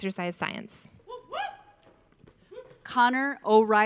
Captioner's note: audience member cheering